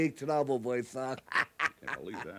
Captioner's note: laughs